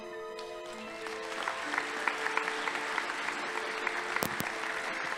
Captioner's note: audience applauding